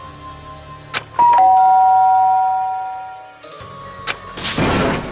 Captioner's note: ding dong